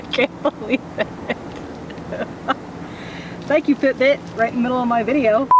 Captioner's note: laughing